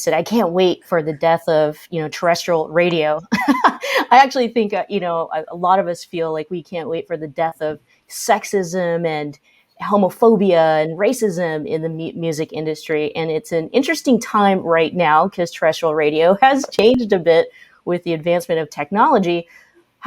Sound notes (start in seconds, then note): 3.3 laughs